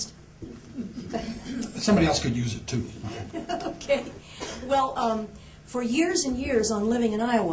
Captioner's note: laughss